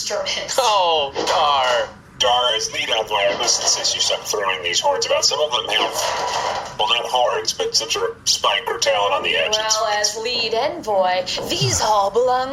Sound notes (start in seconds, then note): 9.9 mockingly